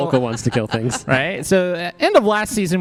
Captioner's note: laughs